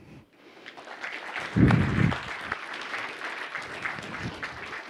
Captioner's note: audience clapping